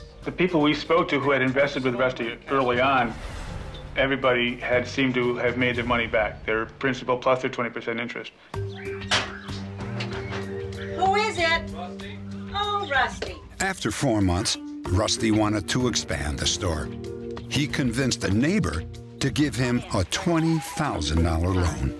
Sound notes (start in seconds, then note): 9.0 knocking